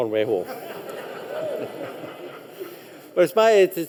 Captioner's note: light chuckle from audience